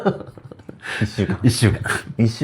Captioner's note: laughs